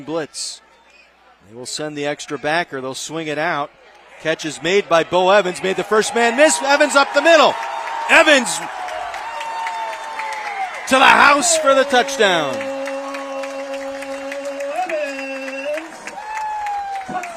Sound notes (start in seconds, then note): 13.9 applause